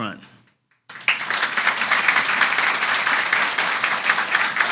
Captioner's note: audience applauds